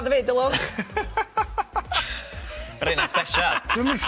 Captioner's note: laughter